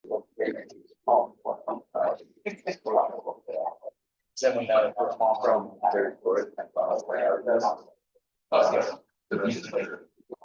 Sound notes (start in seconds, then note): 1.0 people chattering indistinctly